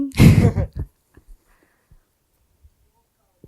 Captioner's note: laughs